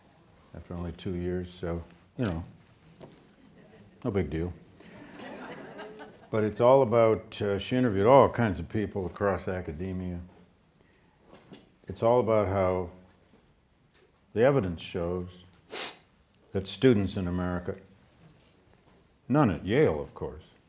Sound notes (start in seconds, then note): 4.8 students laughing